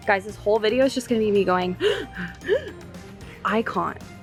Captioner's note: gasping